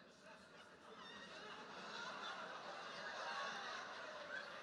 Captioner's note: audience laughing